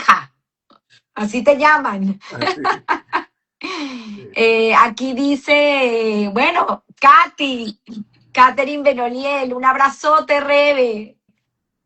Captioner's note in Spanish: carraspeo